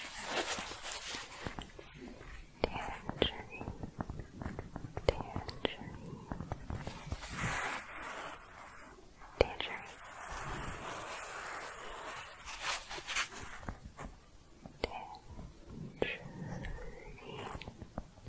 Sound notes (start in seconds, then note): 0.0 scratching and tapping; 6.7 gentle scratching; 10.5 scratching, then tapping